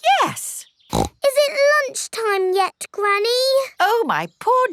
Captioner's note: snorts